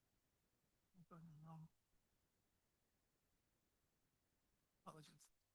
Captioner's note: staff member speaking faintly